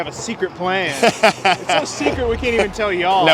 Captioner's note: laughing